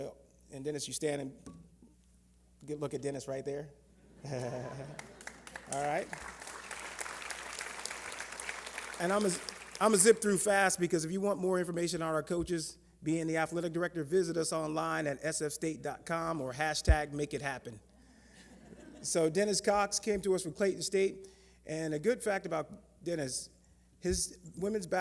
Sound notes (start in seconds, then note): 4.1 laughter; 8.0 applause